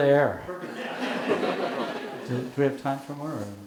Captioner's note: audience laughing